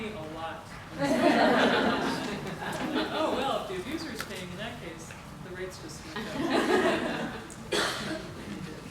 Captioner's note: laughter from the audience